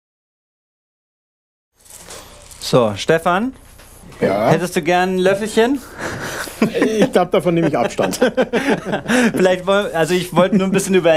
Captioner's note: laughing